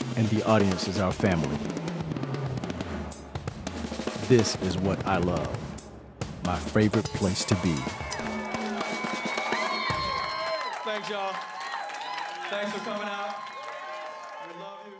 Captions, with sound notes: and the audience is our family. This is what I love. My favorite place to be. (drums beating) (cheering) (clapping) Thanks y'all. Thanks for coming out.